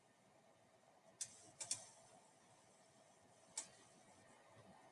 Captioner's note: mouse clicking